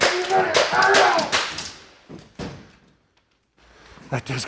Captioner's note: shouting, gunshots